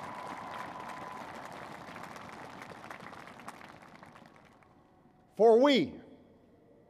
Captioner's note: applause